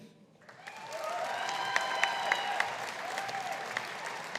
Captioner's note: audience applauding